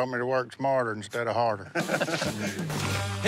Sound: laughs

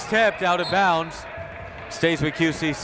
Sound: whistle

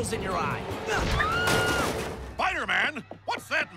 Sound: woman screaming

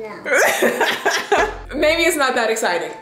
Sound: laughing

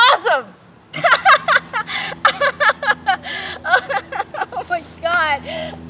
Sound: laughing

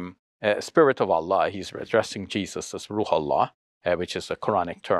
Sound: speaks foreign language

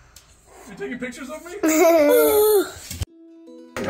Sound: laughs; peaceful guitar music

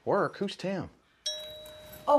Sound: doorbell rings

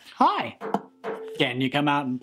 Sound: knocks on ukulele

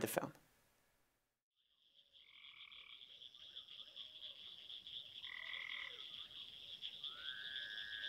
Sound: crickets

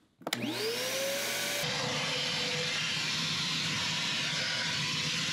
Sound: vacuum engine roaring

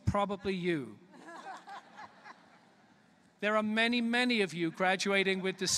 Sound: laughter

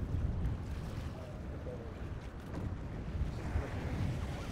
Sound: fish splashing

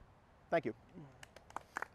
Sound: applause

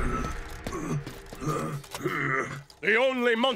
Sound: groaning

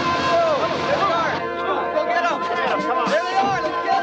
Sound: men shouting

